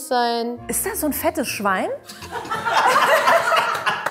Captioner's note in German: Gelächter